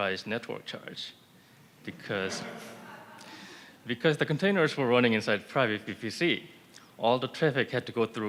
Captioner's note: laughter